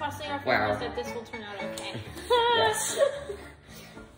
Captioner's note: nervous Laughter